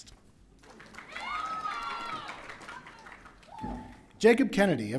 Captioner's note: audience cheering